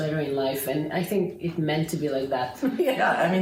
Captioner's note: laughing